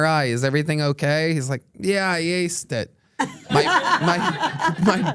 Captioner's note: everyone laughs